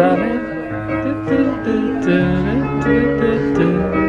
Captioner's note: humming